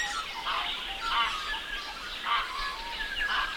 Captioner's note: birds calls